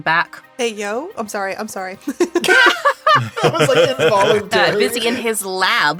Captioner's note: laughs